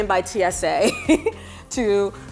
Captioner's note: laughs